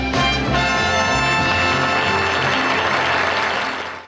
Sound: audience applauding

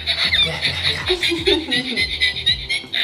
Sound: balloon squeaks; laughs

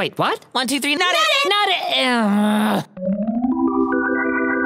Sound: groans

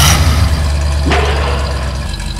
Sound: engine revs; slam

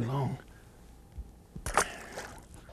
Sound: splash

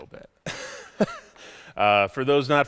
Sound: chuckles

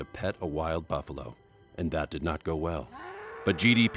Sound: buffalo bellows

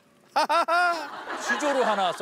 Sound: forced laughter

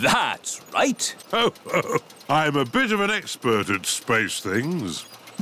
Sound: chuckles

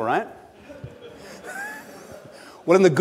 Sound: audience laughs

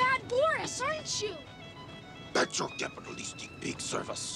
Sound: deep voice

